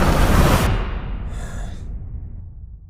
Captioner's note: man inhales